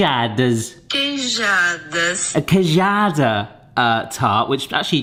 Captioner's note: phone Voice